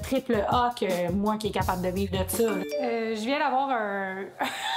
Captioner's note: notification beep; laughing